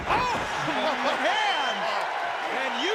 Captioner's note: crowd cheering